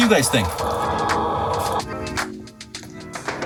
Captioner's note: chickens squawk